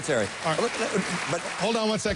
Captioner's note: applause